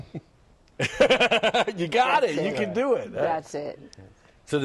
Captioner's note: laughter